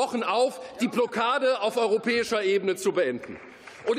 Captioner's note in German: Beifall